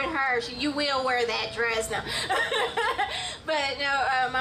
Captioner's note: laughs